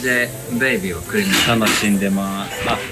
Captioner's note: sarcastic